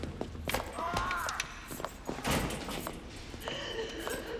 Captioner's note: moaning, crying